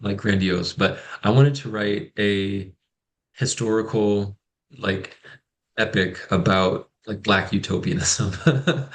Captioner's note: brief laughter